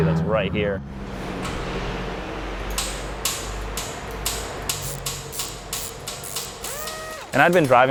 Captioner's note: automotive shop ambiance